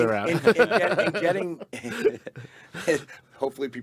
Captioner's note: group laughing